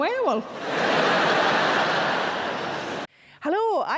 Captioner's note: audience laughing